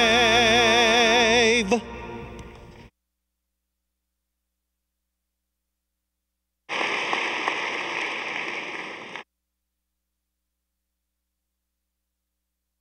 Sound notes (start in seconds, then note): 6.8 audience applauding